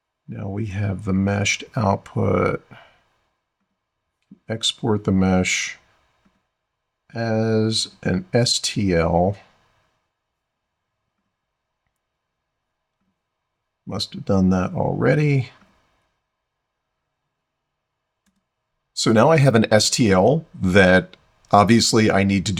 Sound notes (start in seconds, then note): 9.8 silence